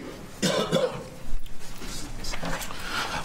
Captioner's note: coughs